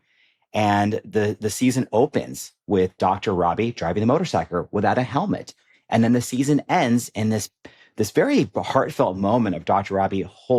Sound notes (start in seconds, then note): none